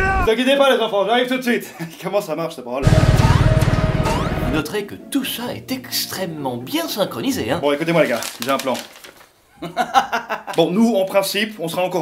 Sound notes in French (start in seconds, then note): 9.6 rire